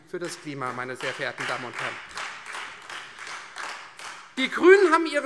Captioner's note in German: Beifall Freie Demokraten